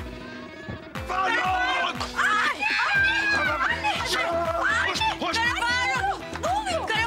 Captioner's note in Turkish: Çığlık atıyorlar